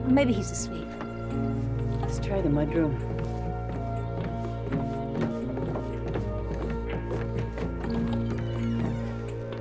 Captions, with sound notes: - Maybe he's asleep. - Let's try the mud room. (somber music) (footsteps thumping)